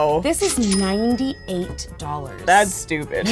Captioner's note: cash sound